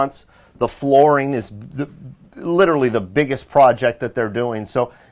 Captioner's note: stutters